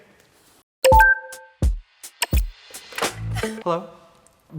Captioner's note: beeping